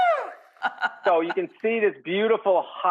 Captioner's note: Rachael laughing